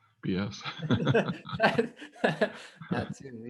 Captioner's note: both laughing